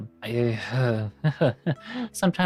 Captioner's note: laughs